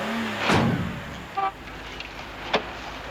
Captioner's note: horn honks